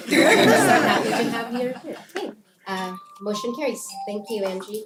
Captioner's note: laugh